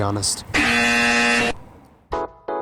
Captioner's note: incorrect buzzer